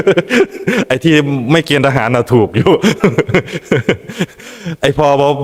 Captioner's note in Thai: เสียงหัวเราะ; เสียงหัวเราะ